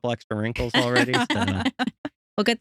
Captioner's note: laughing